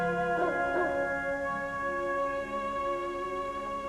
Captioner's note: dog barking